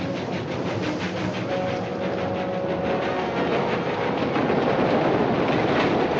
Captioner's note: train rumbling